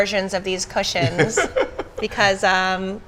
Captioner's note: laughs